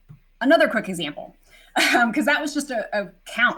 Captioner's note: laughing